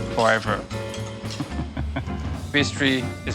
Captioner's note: laughs